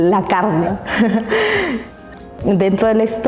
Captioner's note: laughs